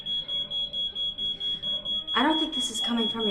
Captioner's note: alarm system ringing